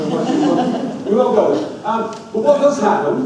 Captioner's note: audience laughs